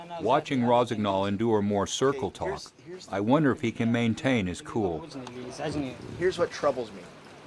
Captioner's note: voiceover